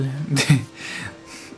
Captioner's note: giggles